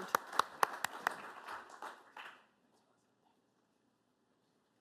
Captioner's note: applause